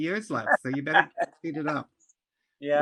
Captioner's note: laughter